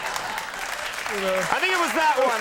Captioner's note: audience laughing and clapping; everyone laughing